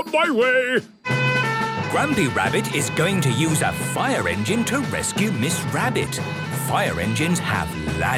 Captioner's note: sirens